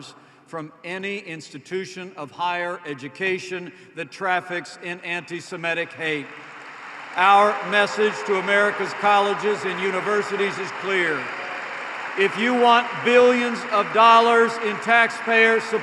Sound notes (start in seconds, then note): 6.0 applause